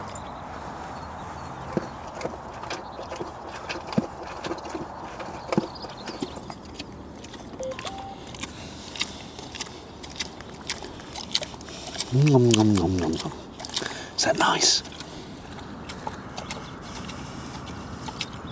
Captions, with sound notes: (Chomping sounds) (My phone beeps) (Loud chomping sound) Nom nom nom nom nom. Is that nice?